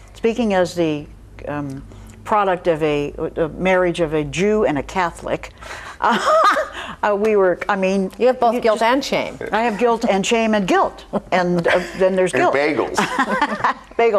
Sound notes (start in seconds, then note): 6.3 laughs